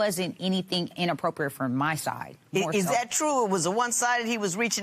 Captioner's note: none